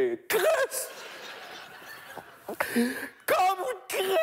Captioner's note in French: rires